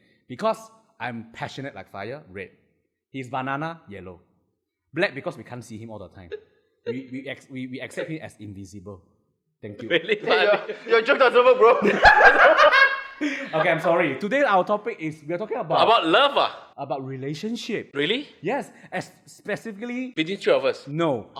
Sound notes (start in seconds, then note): 9.9 laughs